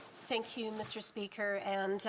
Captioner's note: speaking French